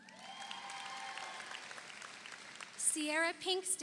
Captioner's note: audience cheers; audience applauds